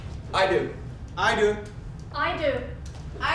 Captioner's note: snap